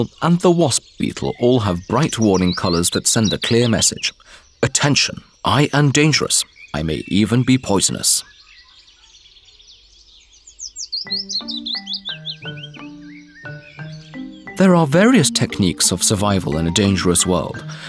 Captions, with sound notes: nd the wasp beetle all have bright warning colors that send a clear message - "Attention! I am dangerous. I may even be poisonous". [Birds singing] [Soft music, birds singing] There are various techniques of survival in a dangerous world,